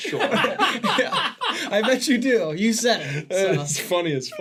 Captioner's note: laughing